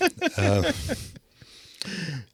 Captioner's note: laughing